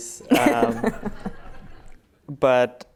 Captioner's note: laughter